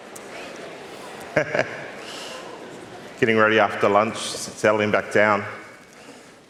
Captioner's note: laughs